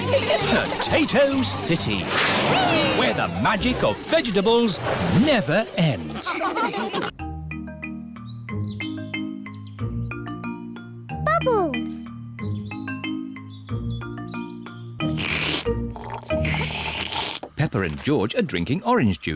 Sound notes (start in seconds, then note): 0.0 all giggling; 15.0 both slurping